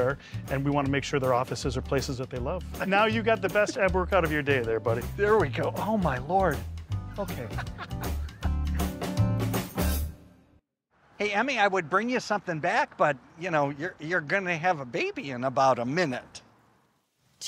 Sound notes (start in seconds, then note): 7.2 laughs